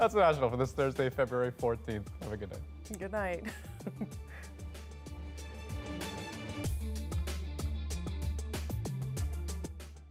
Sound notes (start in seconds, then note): 1.4 laughter